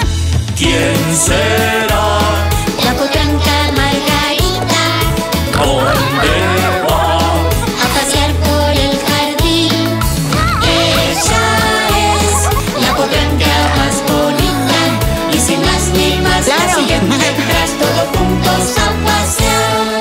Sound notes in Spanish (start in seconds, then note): 5.3 Sonido de animales